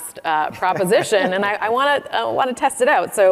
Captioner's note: laughing